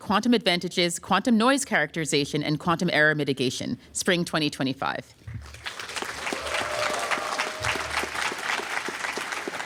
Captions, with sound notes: quantum advantages, quantum noise characterization, and quantum error mitigation," spring 2025. [APPLAUSE]